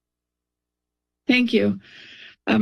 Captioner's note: silence